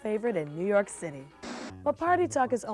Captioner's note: static noise